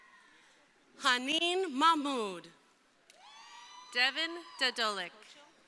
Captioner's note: crowd cheering